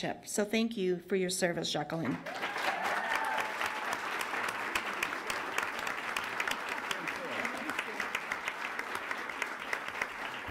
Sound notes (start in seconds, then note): 2.3 applause